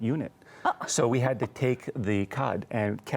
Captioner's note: laughs